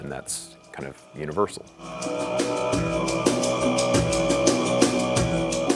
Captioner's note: imitating didgeridoo sounds